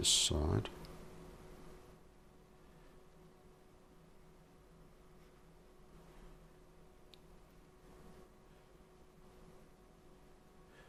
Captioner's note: silence